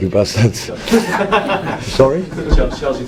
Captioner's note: general laughter